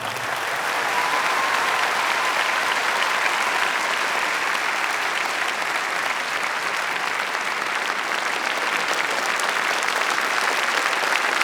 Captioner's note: applause